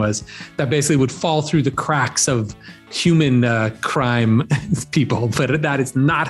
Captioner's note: chuckling